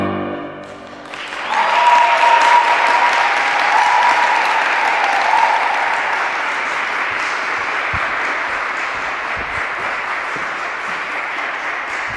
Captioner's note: applause